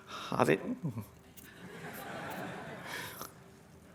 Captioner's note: laughter